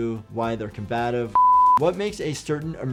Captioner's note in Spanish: pitido en pantalla